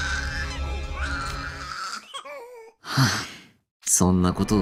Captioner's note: crying; sigh